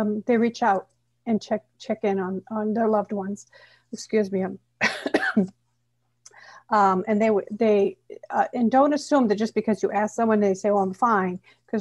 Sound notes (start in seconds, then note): 4.8 coughing